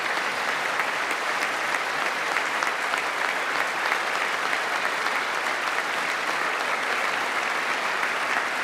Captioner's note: applause